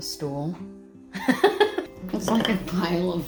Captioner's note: laughing